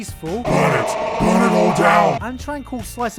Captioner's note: demonic Voice